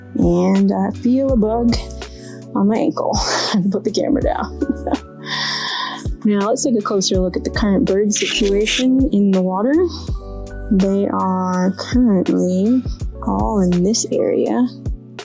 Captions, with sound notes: and I feel a bug on my ankle. [chuckles] Gotta put the camera down. Now let's take a closer look at the current bird situation in the water. They are currently all in this area